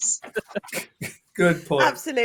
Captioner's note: laughter